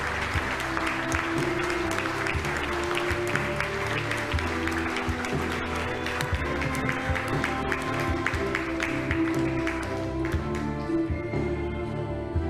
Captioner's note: applause